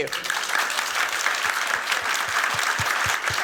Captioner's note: applause